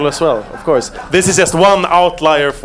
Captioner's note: audience laughing